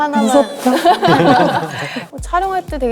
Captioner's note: laughing